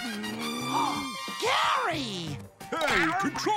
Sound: gasping

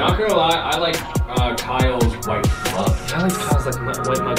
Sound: murmurs

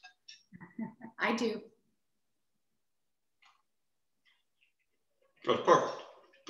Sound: chuckles

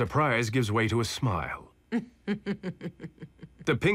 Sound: chuckling

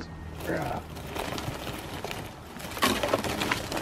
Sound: sounds of the snow and ice falling from the Jeep

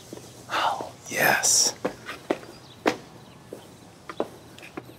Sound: birds chirping

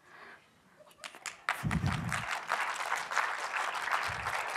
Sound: applause

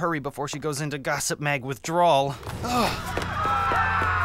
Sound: panicked screaming

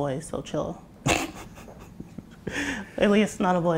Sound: laughter

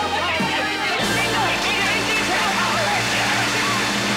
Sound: audience applauding

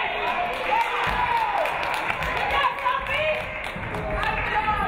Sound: audience clapping

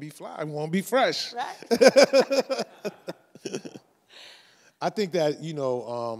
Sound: laugh

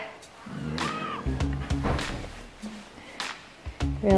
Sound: moaning

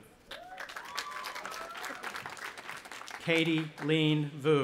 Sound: audience applauding

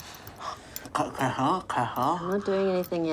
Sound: murmuring

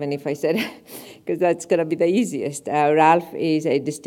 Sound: laugh

